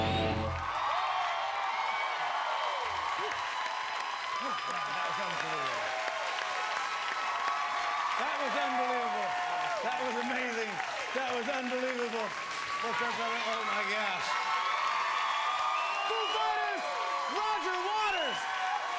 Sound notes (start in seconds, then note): 2.2 cheers and applause; 18.4 cheers and applause